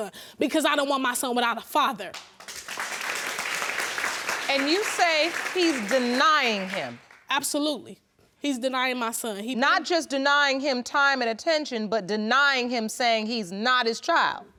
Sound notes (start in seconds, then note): 2.1 audience clapping